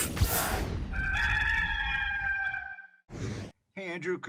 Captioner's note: gamecock crows